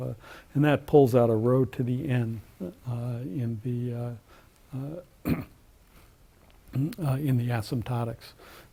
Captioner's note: cough